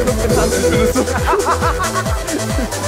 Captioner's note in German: Gelächter